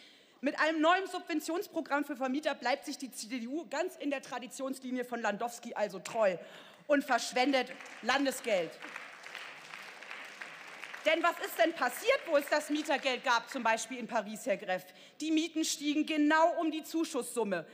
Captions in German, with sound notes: Mit einem neuen Subventionsprogramm für Vermieter bleibt sich die CDU ganz in der Traditionslinie von Landowsky also treu und verschwendet Landesgeld. (Beifall) Denn was ist denn passiert, wo es das Mietergeld gab, zum Beispiel in Paris, Herr Gräff? Die Mieten stiegen genau um die Zuschusssumme.